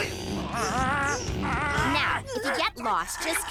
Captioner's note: humming